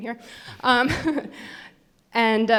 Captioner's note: laughs